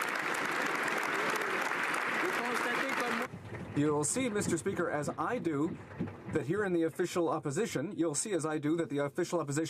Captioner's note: applause